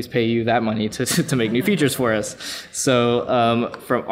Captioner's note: laughs